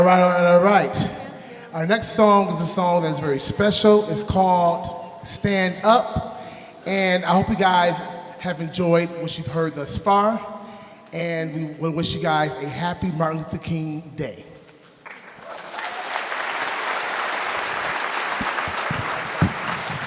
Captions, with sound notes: - All right, all right, all right. Our next song is a song that's very special. It's called "Stand Up." And I hope you guys have enjoyed what you've heard thus far, and we wanna wish you guys a happy Martin Luther King Day. (audience applauding)